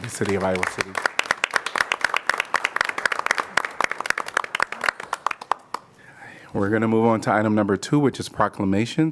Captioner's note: applause